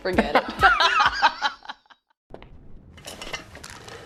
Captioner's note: laughing